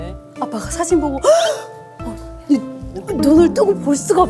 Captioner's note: shudders